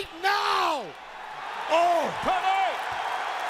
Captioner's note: crowd cheering